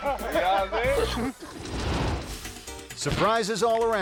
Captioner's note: man speaking in foreign language